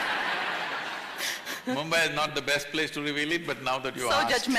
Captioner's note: laughter